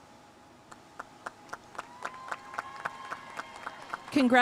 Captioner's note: audience cheering and applauding